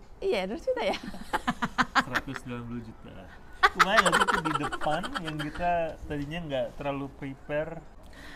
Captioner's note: laughs